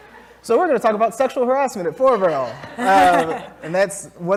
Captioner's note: laugh; laugh